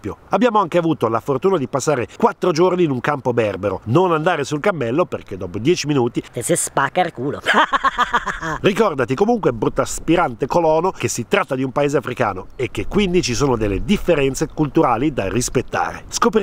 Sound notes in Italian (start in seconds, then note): 7.1 aahahahah